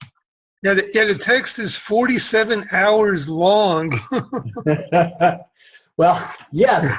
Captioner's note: laughs